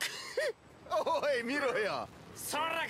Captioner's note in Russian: смех